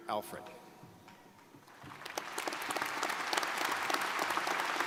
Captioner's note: crowd applauding